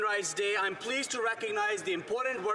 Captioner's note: some Applause